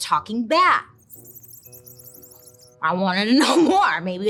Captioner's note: bat chirping